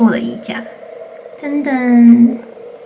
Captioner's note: 唔唔